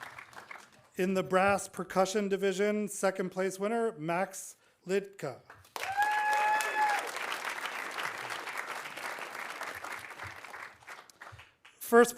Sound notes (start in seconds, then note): 5.6 audience applauding; 5.8 audience cheering